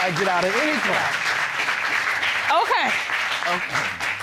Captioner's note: audience applauds